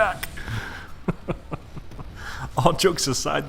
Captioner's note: chuckles